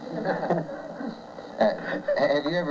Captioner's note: laughter